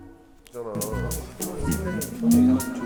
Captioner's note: click, click, click, click, click